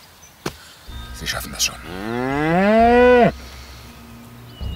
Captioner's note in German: Lautes Muhen